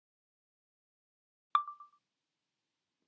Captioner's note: chime of a phone recorder turning on